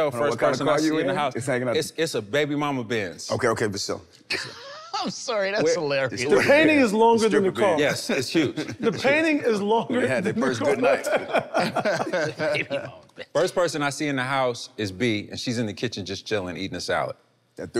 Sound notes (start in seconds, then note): 4.7 laughs; 9.9 group laughs